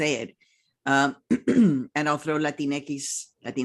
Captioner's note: clears throat